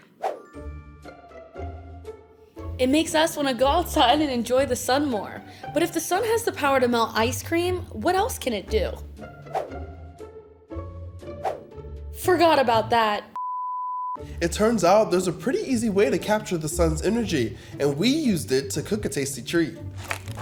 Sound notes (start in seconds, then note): 0.1 screen whooshing; 0.3 gentle music; 11.4 screen whooshing; 13.4 tone beeping